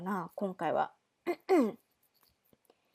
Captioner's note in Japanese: 咳払い